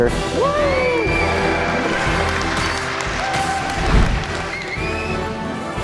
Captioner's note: cheering